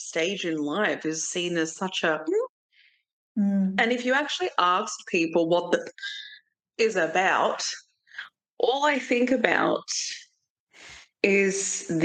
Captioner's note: gasp